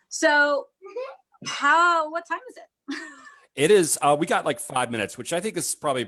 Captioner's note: laughs